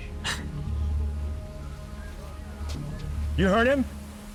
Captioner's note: chuckles